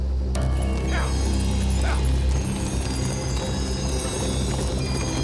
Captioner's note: distant riders grunt